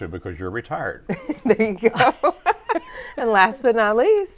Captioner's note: laughs